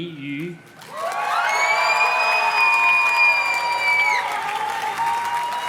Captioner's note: audience cheers and claps